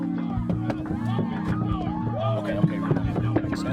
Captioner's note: chatter